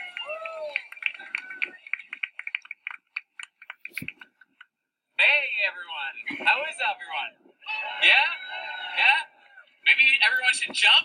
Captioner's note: cheering crowd